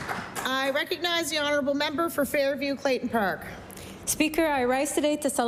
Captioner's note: applause